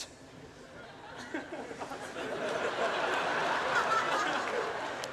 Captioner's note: laughter